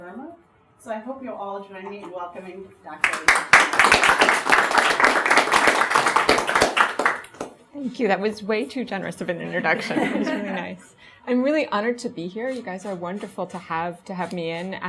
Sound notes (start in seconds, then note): 5.5 audience applauds; 9.6 audience laughs